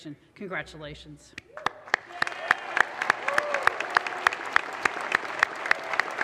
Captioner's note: audience applause